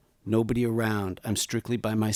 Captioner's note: none